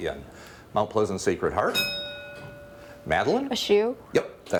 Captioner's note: bell rings